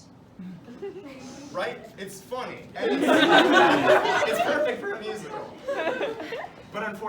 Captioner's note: laughter